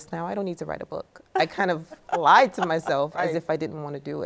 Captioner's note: laughing